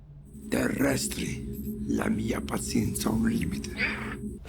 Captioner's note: Donkey's bray